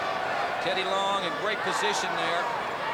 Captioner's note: crowd cheering